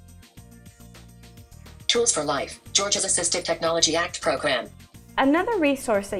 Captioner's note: screen reader speaking